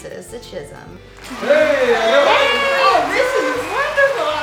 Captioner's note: audience cheering